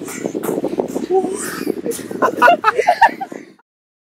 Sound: laughter

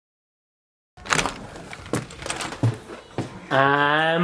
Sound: door unlocks

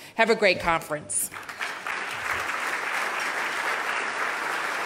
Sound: loud clapping

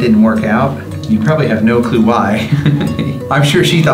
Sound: laughs

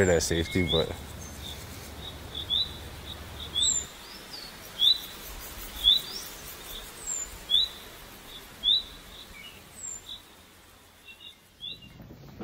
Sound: sound of forest fades to sound of audience entering the classroom

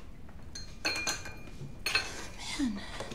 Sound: metallic clinking

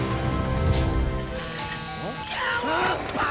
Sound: buzzing, chiming

